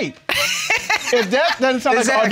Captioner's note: laughing